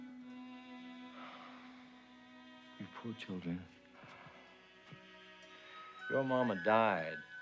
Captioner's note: sighs